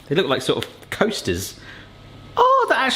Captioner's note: none